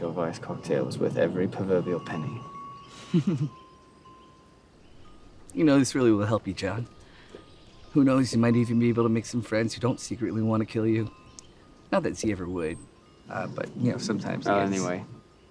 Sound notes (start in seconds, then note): 2.9 laughs